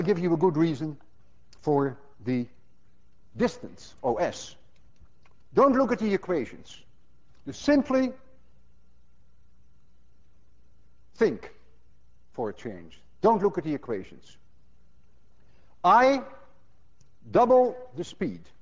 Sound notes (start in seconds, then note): none